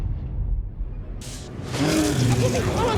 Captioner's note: animal growls